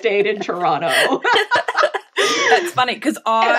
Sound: laughing

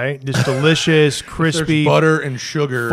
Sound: laughter

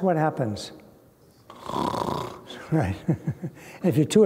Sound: snoring sound

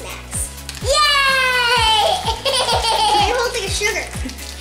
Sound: laughter

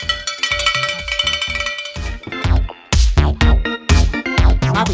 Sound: cowbell rings

